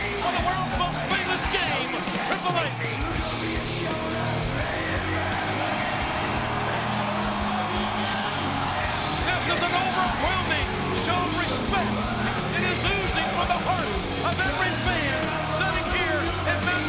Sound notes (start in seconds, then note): 4.3 audience cheering; 4.3 dramatic rock music